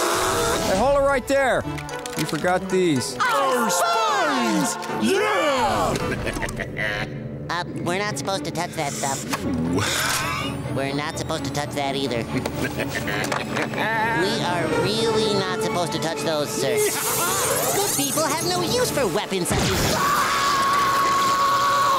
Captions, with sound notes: Hold it right there. You forgot these. Our spines! Yeah! [laughing] Uh, we're not supposed to touch that stuff. We're not supposed to touch that either. [laughing] We are really not supposed to touch those, sir. Ha ha! Good people have no use for weapons- [screaming]